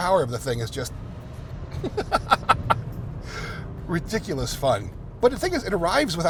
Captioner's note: laughs